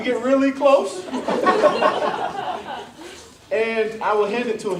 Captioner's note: laughter